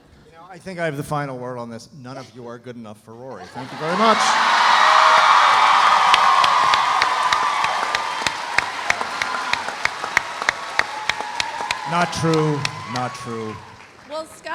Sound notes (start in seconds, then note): 4.4 audience applauding; 4.4 audience cheering